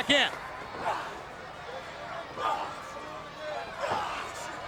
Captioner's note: wrestlers grunting